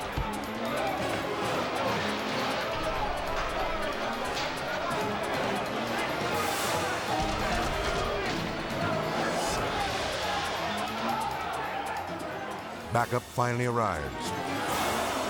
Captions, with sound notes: (prisoners shouting) Backup finally arrives,